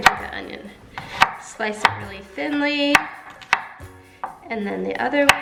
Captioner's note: knife chopping on board